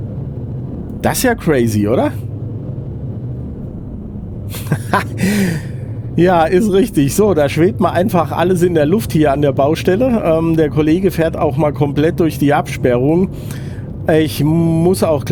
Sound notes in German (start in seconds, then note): 4.5 gelächter; 5.1 japst